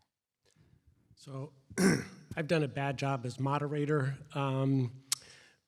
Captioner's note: cough